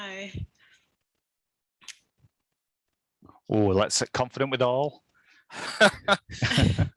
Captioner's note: laughter